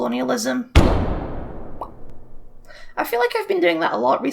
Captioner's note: bang